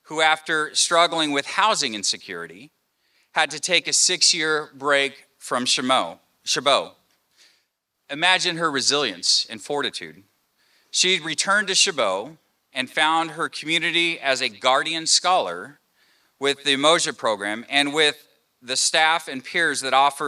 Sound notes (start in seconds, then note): none